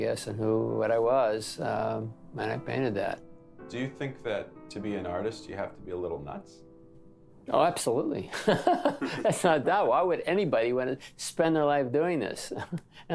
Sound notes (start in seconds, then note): 8.4 laughs